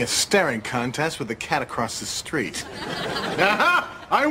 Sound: audience Laughing

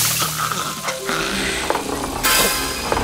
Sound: rolling sound

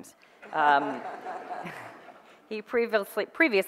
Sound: audience laughter

